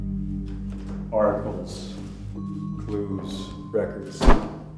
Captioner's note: none